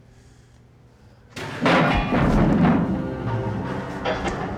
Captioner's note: object clanks and thuds